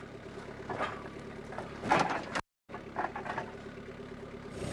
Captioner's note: engine roaring